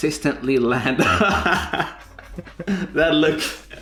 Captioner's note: both laugh